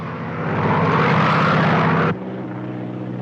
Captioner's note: aircraft roars